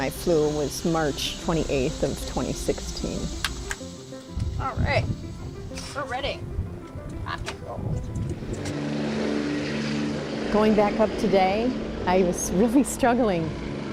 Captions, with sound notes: The last time I flew was March 28th of 2016. Alright, we're ready! Rock and roll! (helicopter blades whirring) Going back up today, I was really struggling.